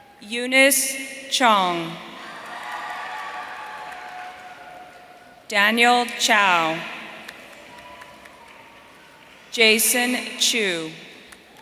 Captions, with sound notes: Eunice Chong. (audience cheering) Daniel Chow. Jason Chu.